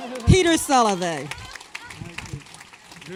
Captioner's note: applause